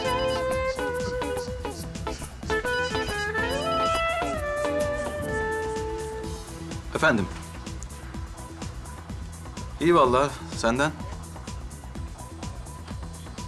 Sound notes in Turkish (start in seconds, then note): 2.2 Telefon zili sesi; 7.1 Fonda müzik; 10.8 Fonda müzik